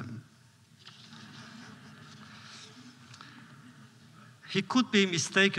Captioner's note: laughter